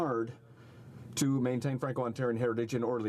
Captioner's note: speaking French